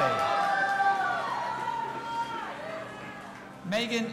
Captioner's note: audience applauding and cheering